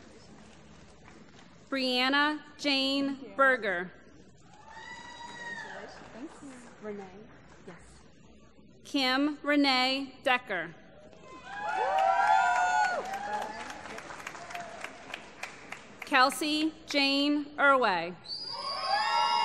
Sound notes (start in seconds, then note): 1.0 applause; 5.4 applause; 11.4 applause